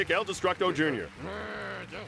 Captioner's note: applause